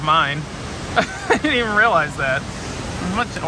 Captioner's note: laughs